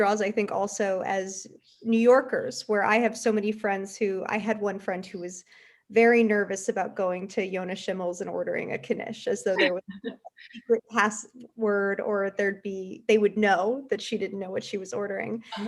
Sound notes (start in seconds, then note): 9.5 laughs